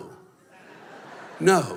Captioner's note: laughter